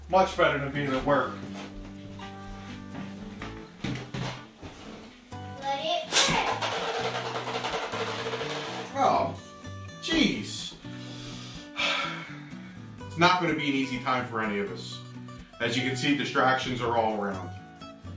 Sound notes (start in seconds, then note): 6.2 sound of toy spinning on floor